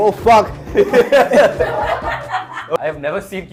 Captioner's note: all laugh